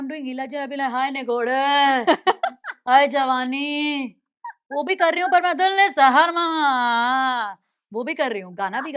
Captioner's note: Mimicry of Ila Arun